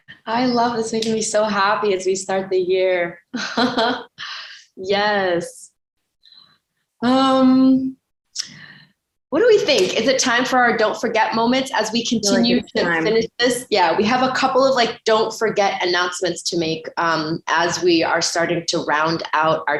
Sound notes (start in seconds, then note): 3.3 chuckles